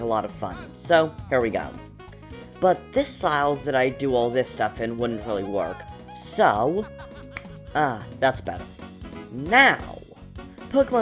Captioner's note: snap